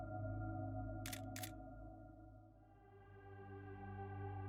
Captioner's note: shutter clicking